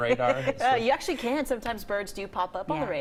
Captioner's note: laughter